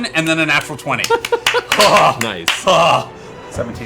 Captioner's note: laughs